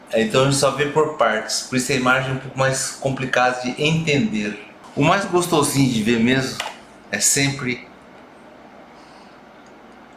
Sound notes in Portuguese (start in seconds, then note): none